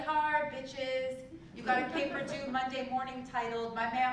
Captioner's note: laugh